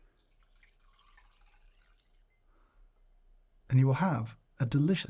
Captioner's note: coffee pouring